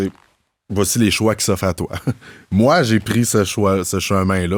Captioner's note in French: petit rire